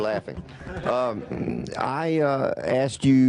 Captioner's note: laughter